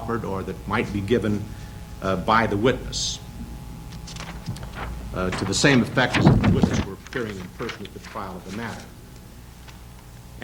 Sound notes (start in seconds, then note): 3.7 papers rustling